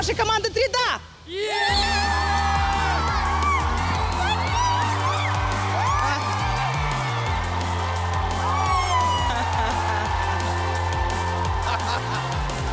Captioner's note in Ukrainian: оплески